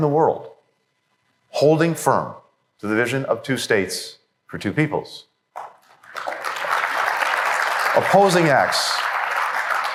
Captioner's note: applause